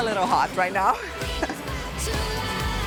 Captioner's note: laughs